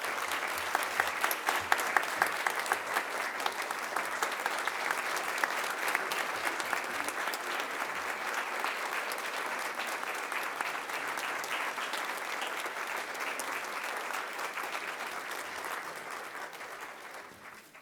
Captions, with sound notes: AND THANK YOU FOR BEING HERE THIS MORNING. [ APPLAUSE ]